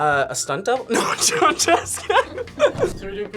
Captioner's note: laughs